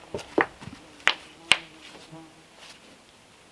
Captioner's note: clacking